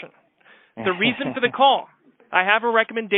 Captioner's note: laughs